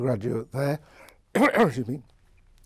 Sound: coughs

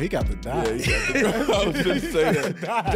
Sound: laughing

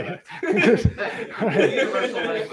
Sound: laughter

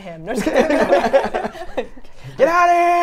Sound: everyone laughs

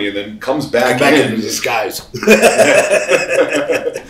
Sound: laughs

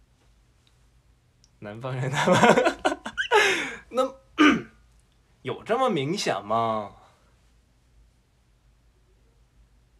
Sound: T/N: in a stereotypical Northern accent

